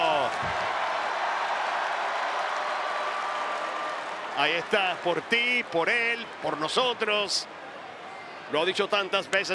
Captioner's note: applause